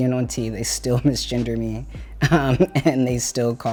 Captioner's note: chuckles